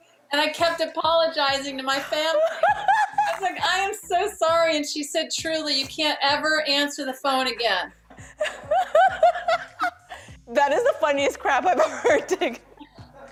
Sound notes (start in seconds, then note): 8.2 laughter